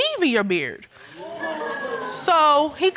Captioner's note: audience laughs